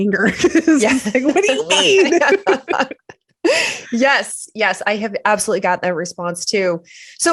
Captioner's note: laughter